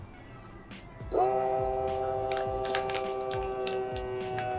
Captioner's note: sealer buzzing